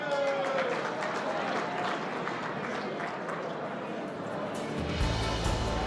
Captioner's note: applause